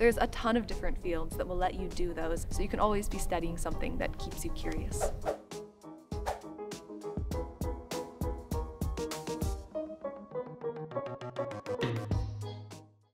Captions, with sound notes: a ton of different fields that will let you do those. So you can always be studying something that keeps you curious. [Whoosh] [Curious music]